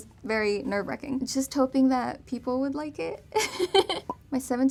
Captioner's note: laughs